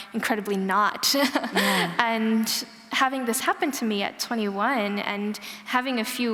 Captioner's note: laughter